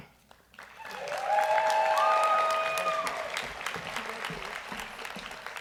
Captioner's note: audience cheers and applauds